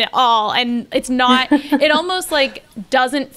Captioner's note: they laugh